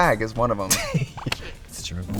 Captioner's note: Katya laughs